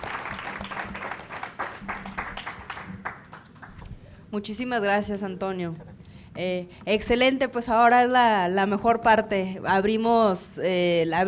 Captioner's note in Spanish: Aplausos